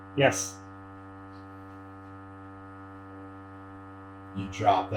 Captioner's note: dolly buzzing